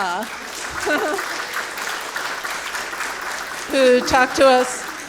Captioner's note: audience clapping